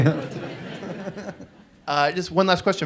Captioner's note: audience laughs